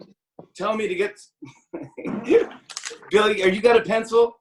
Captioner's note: laughs